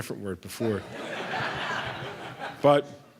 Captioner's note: laughter